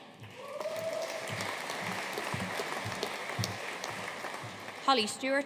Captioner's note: audience cheering and applauding